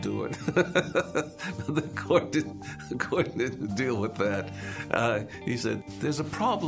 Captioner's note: laughs